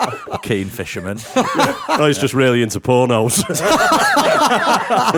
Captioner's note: laughter